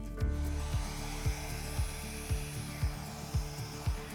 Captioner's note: blower whooshing